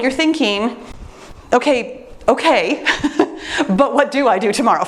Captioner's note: laughs